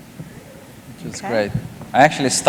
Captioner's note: none